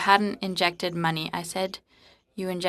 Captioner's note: speaking French